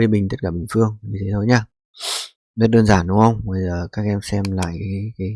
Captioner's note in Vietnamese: khịt mũi